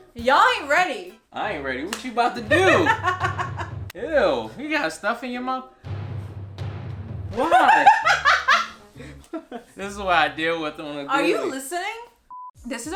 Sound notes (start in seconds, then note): 2.5 laughs; 5.8 dramatic music; 7.4 laughs